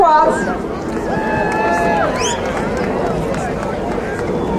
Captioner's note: crowd cheering